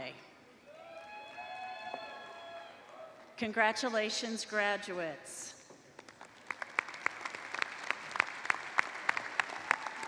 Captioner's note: applause